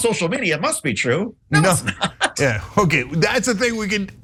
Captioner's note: laugh